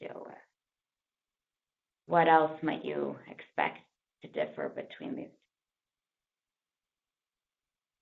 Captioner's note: pause